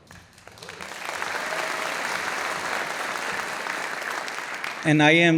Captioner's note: audience applauding